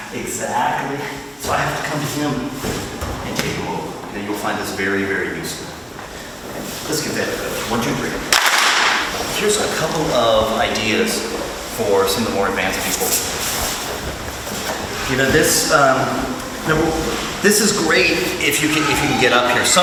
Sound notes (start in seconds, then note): 8.3 group claps